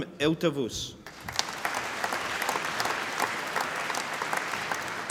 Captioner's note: applause